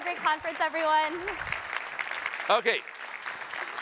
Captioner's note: applause